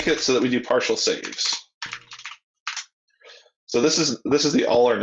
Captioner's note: keyboard keys clanking